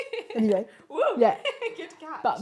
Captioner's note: laughs